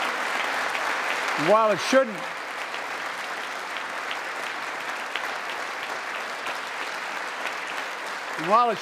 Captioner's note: applause; applause